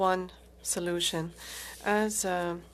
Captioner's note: speaking French